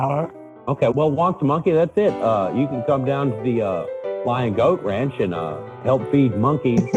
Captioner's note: laughter